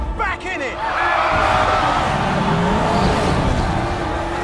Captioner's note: audience goes nuts